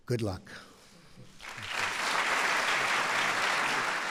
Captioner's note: applause